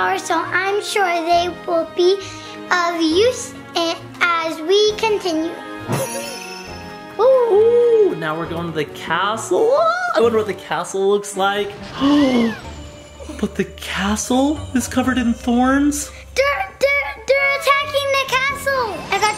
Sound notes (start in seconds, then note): 5.6 game music; 12.0 gasps